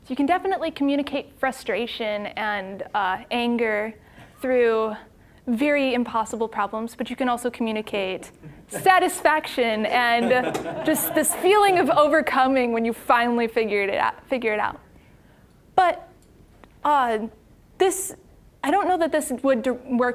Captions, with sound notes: So you can definitely communicate frustration and anger through very impossible problems, but you can also communicate satisfaction! (audience laughing) And just this feeling of overcoming when you finally figured it out-- figure it out. But this-- I don't know that this would work